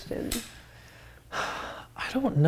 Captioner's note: sighs